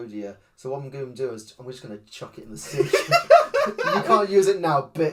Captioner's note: laughs